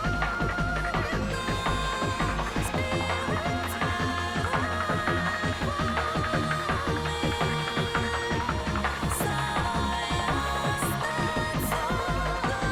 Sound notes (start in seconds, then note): none